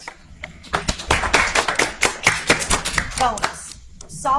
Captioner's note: audience applauds